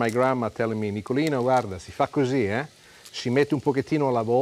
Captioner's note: speaking Italian